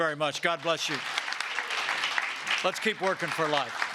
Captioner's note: applause